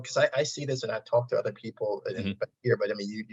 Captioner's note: audio distortion